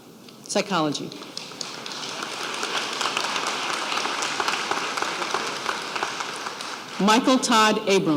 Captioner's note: applause